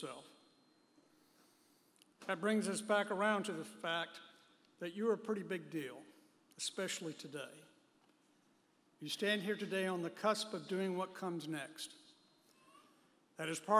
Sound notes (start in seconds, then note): none